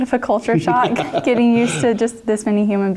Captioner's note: laugh